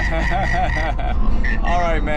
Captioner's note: laughing